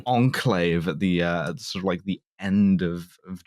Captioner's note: none